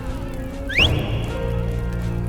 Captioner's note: whistles